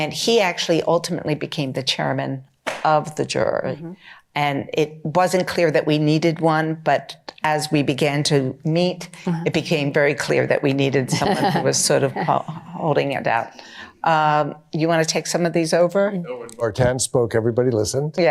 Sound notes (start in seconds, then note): 13.6 laughter